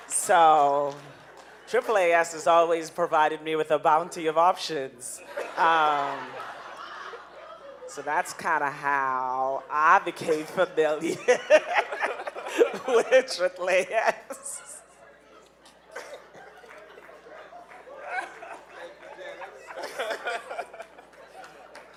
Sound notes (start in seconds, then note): 5.2 audience laughing; 10.2 laughing; 15.3 audience laughing